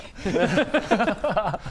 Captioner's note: concerned laugh